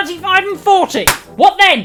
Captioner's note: slap